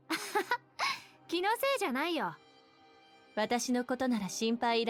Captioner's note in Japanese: 笑い